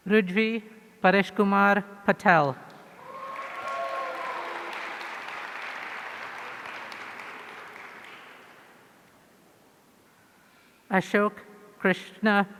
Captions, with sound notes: Rujvee Pareshkumar Patel. (audience cheering) Ashok Krishna Perumal.